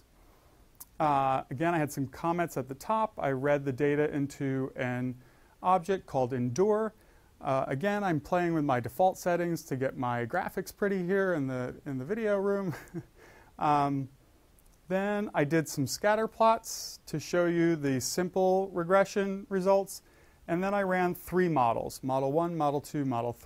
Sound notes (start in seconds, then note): 12.7 laugh